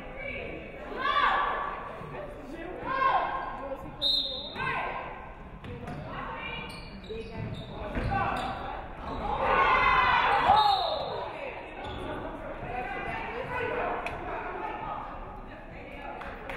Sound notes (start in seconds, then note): 10.4 referee whistles